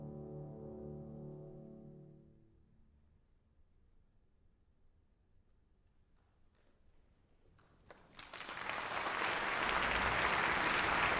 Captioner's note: applause